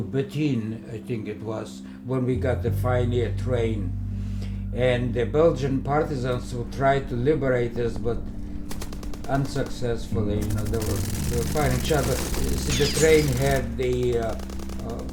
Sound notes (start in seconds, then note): 10.3 machine-gun fire